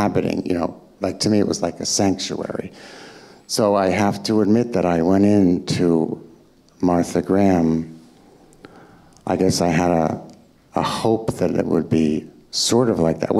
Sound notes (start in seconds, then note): none